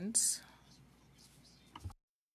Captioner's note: speaking French